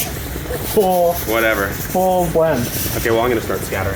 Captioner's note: giggling